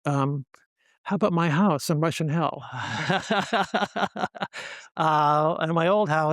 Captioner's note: laughs